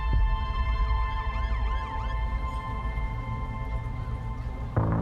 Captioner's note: siren wailing